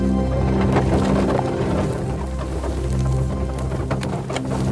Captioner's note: creaking